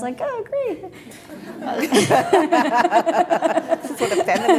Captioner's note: laughing